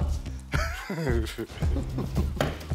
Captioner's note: Lachen